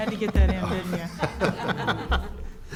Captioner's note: laughter